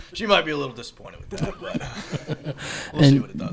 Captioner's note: chuckles